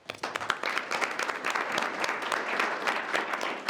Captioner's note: group applauding